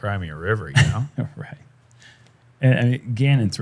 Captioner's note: chuckles